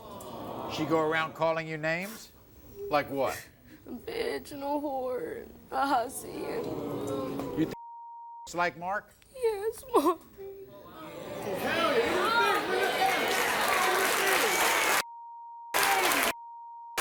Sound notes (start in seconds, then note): 6.6 audience boos; 11.0 audience cheers